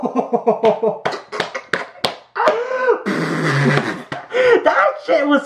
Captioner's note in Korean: 박수 박수 박수 감탄 박수 박수